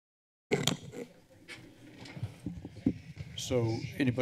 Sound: silence; mic noise

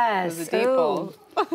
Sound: laughter

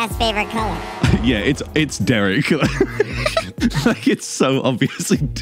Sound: laughs

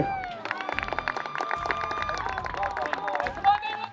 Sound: crowd cheers

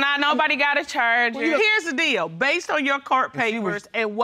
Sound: none

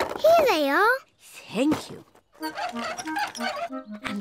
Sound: none

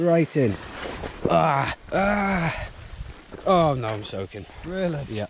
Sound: softly groaning

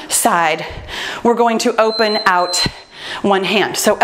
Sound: timer beeps

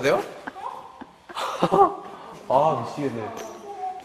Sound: empty laugh

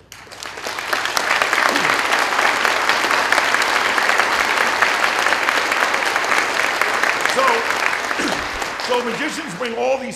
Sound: applause

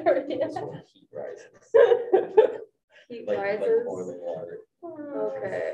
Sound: laughter

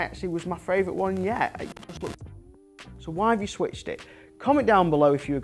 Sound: mic failed

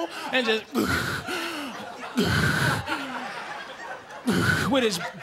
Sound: heavy breathing

